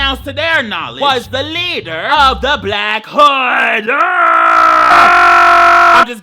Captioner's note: screams